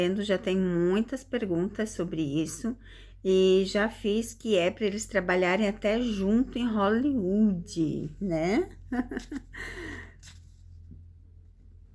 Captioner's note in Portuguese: risadas